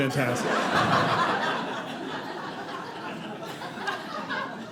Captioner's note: audience laughing